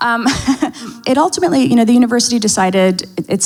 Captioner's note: laughs